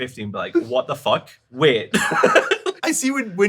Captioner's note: laughs